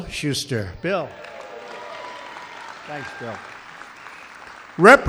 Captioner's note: applause